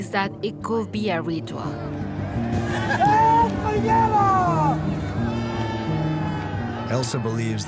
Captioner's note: crowd shouting